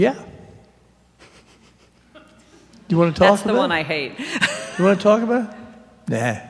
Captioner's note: laughing